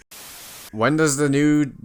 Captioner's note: static